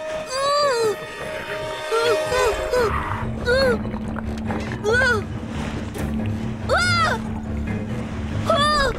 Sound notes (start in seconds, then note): 1.6 whining